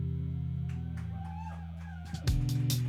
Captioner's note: cheers and applause